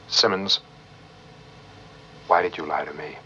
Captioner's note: none